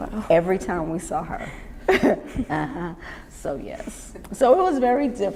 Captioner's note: laughs